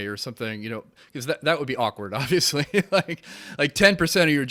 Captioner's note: chuckles